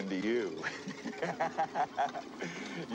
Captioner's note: laughs